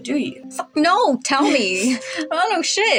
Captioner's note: chuckle